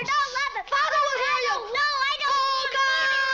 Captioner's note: kids screaming at each other